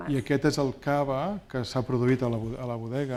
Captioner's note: speaking spanish